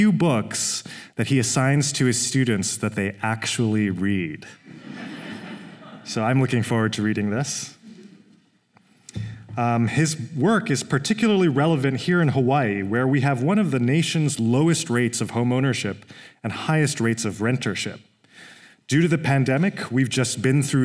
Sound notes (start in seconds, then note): 4.6 laughter